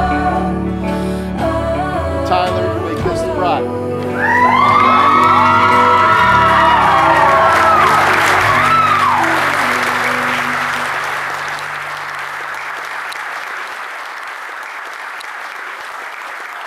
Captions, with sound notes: Tyler you may kiss the bride (applause)